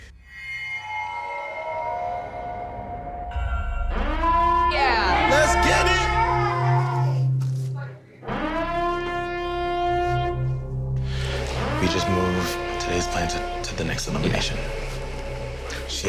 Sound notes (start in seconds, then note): 0.1 suspenseful music; 4.0 siren ringing; 8.2 siren ringing